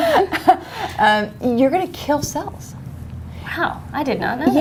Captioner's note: laughter